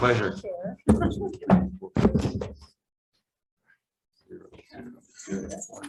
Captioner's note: committee members chattering